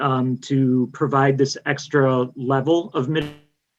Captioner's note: mic cuts out